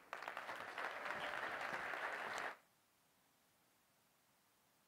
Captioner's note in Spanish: aplausos